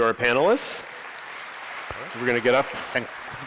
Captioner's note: applause